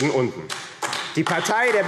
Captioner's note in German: Beifall AfD